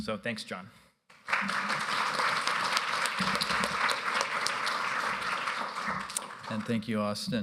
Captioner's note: applause